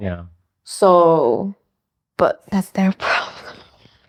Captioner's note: whispering